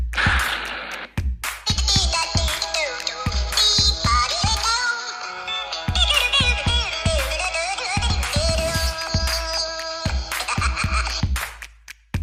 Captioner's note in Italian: Applauso